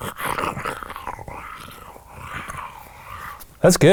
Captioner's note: snarling